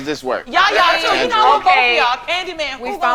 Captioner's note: group chatting